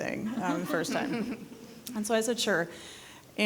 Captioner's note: people giggling